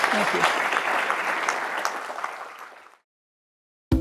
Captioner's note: audience clapping